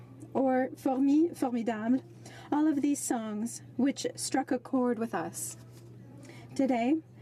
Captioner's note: speaking french